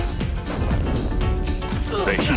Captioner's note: explosion booms